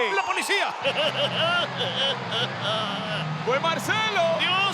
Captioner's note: laugh